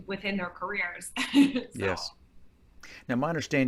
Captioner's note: chuckling